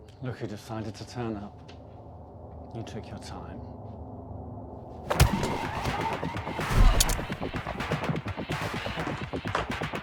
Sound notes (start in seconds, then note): 5.0 intense dramatic music; 5.1 blow thudding; 6.7 cell phone clatters